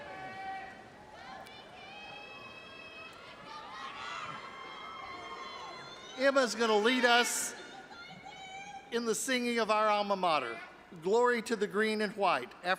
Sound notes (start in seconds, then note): 3.8 audience applauding and cheering